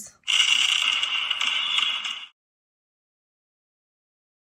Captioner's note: fireworks bang